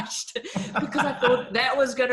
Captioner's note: laughing; laughs